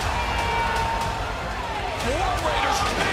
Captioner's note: cheers and applause